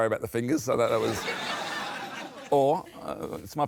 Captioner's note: laughter